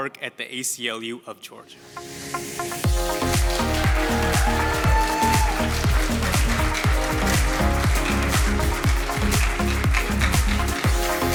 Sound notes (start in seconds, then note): 2.9 audience cheering and applauding; 8.7 upbeat music